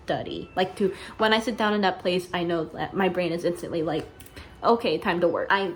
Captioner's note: snaps fingers